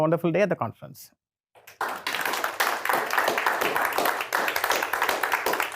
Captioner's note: applause